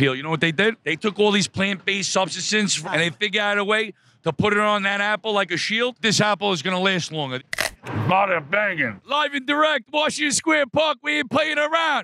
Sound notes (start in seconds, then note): 7.5 apple crunching